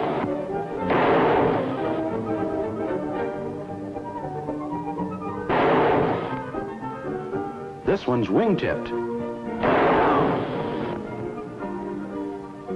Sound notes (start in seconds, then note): 0.0 gunshots; 7.6 gunshots